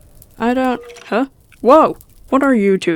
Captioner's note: unknown rattling